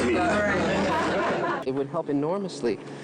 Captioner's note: group laughing